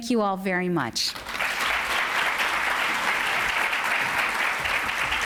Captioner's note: applause